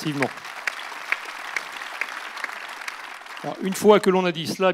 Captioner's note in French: Applaudissements